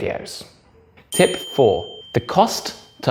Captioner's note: bell dings